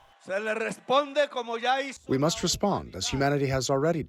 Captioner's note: through translator